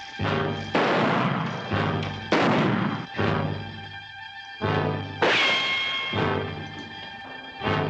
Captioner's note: gunshots